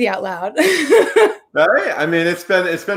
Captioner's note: laughs